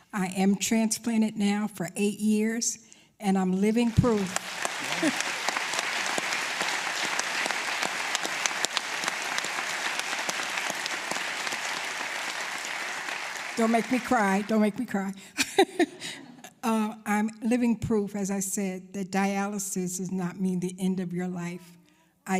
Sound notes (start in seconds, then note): 11.7 applause; 16.9 laughs